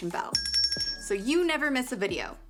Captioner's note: bell rings